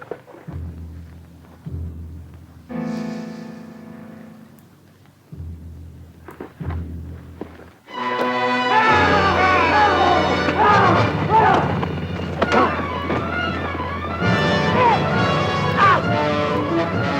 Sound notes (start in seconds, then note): 7.8 dramatic orchestral music; 8.4 Jeff and Greer yell